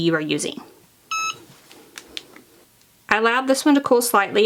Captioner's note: press beeping